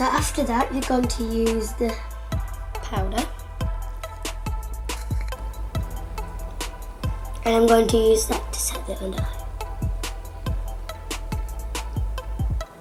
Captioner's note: laughs